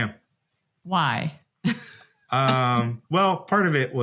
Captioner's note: laughs